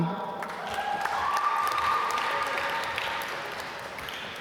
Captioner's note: applause